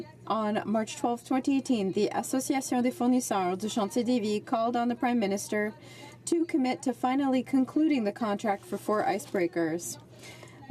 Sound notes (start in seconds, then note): 6.6 speaking French